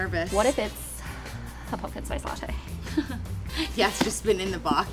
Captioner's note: laughs